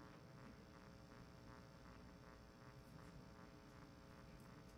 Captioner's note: none